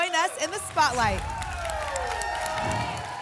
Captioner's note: applause and cheering; whoosh